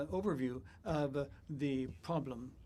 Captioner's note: speaking in French